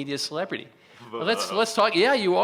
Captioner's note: makes disapproving noise